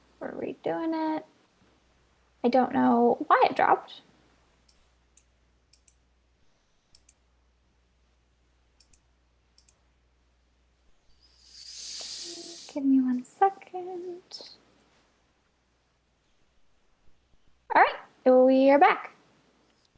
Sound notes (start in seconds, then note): 4.6 mouse clicking; 11.3 whooshing